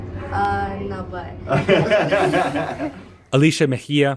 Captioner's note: laughter